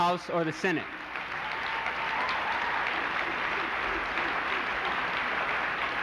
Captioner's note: applause